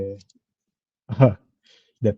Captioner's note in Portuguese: risada